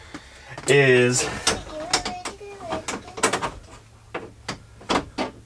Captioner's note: clanking sound